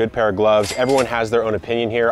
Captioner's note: cash register rings